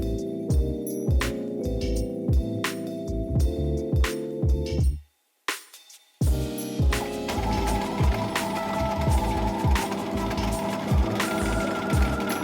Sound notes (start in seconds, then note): 0.0 soft music; 6.9 sewing machine whirring